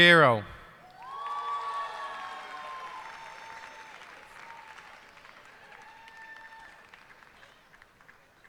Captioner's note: cheers and applause